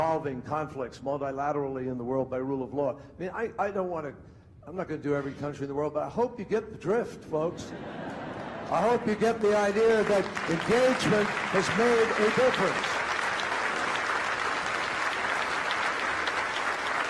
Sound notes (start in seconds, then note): 7.5 crowd laughing; 12.7 crowd applauding